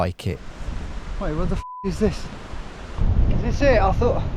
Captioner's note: beep